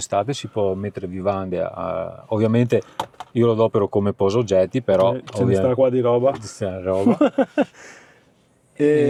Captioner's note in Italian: risate